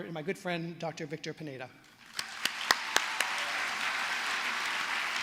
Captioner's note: applause